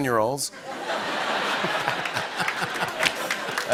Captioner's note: laughter